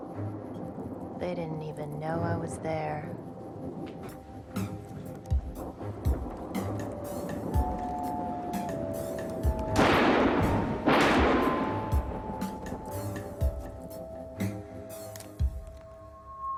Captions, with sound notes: They didn't even know I was there. (gun firing)